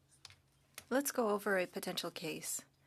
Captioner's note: speaking French